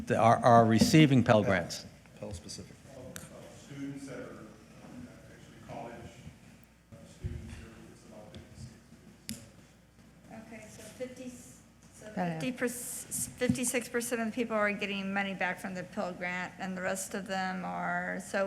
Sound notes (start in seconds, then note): 7.3 faintly speaking